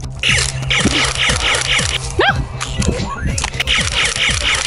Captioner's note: Nerf blaster firing